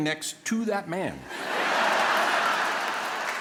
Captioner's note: laughter